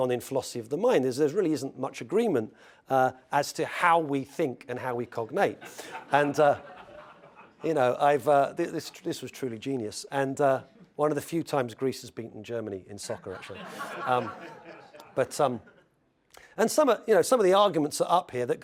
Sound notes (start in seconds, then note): 6.5 laugh; 13.4 laugh